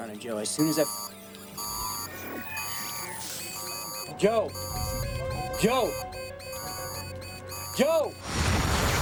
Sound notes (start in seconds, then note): 6.3 alarm